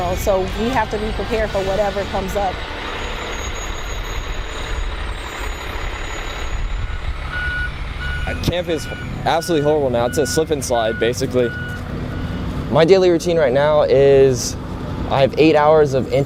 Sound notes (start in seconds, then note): 3.6 vehicle motor humming